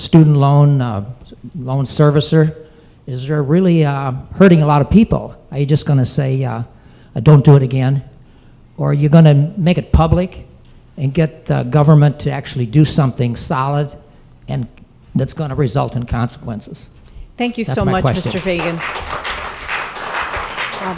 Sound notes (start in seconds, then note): 17.8 applause